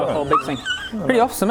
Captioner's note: excited squeak